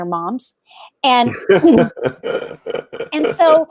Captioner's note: laughs